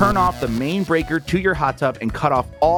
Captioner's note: electricity buzzing